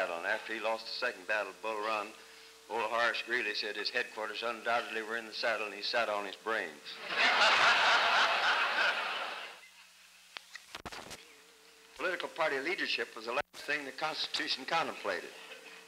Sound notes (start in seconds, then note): 6.9 laughter